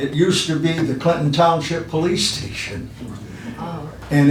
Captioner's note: laughs